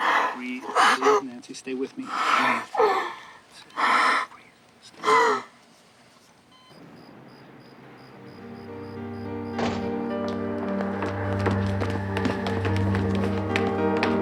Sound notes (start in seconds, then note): 2.7 Nancy gasping; 8.0 dramatic music